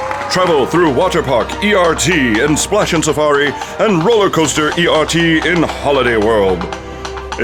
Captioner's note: sound FX: Coconuts